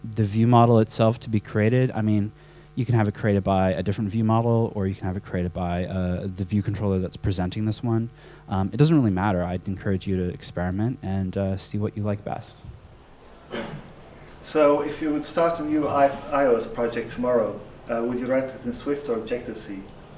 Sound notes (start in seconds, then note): 14.5 voiceover